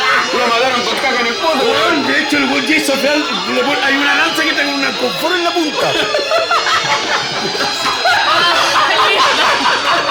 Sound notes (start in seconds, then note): 6.9 laughs